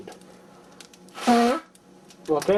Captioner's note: sneeze